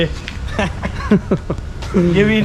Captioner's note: chuckles